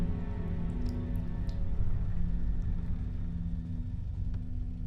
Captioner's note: liquid dripping